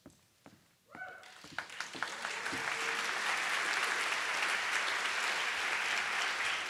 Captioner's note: audience applauding; audience cheering